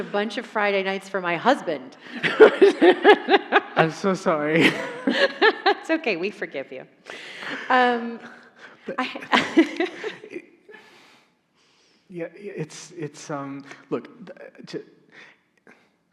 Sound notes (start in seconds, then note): 2.1 laughs; 8.5 chuckles